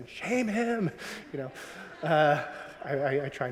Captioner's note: audience laughing